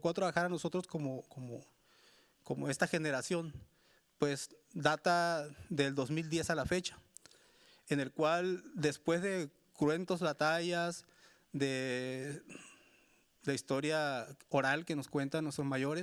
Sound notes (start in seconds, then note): 6.7 speaking Spanish continues